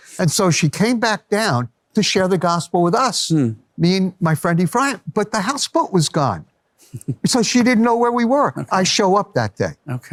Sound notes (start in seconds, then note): 6.9 laughs